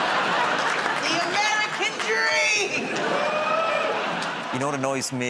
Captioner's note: laughter; laughter